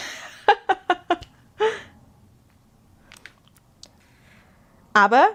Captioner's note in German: gelächter